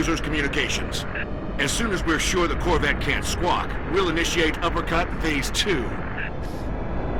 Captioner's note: radio